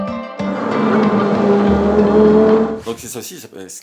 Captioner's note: engine roaring